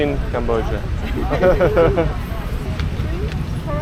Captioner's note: laughing at my own joke